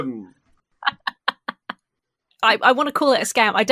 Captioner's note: laughs